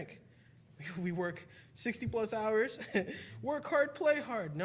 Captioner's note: chuckling